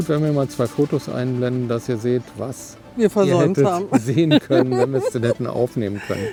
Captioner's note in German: gelächter